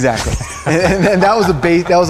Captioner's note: laughs